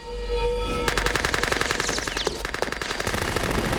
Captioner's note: gunfire